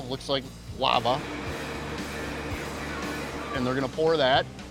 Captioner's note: machinery whirs